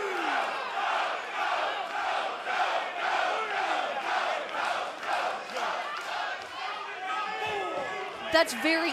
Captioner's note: fans chanting